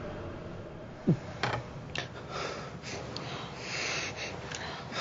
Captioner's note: gasps